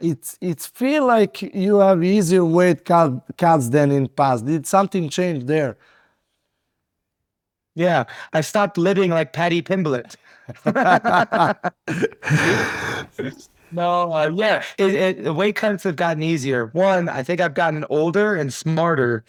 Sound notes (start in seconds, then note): 12.5 both laughing